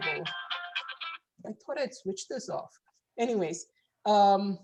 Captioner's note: phone ringing